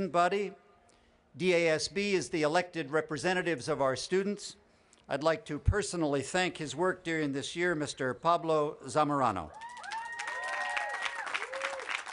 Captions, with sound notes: I WOULD LIKE TO PERSONALLY THANK HIS WORK DURING THIS YEAR MR. PABLO ZAMORANO. (APPLAUSE)